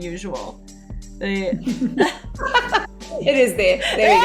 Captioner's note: laughing